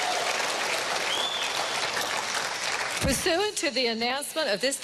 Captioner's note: cheering and applause